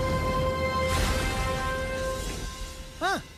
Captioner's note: crash